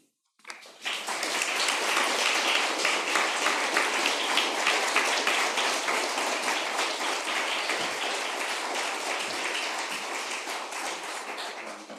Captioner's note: applause